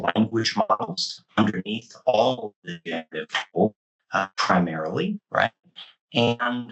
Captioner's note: mic cutting